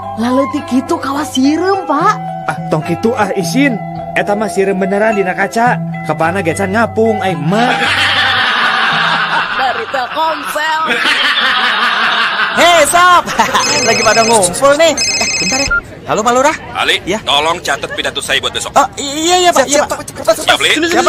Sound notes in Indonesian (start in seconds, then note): 13.2 tertawa